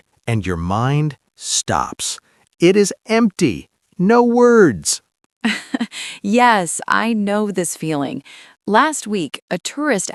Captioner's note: laughs